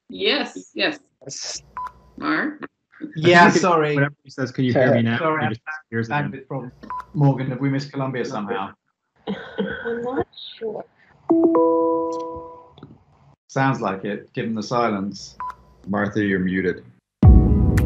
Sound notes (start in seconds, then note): 11.3 computer ringing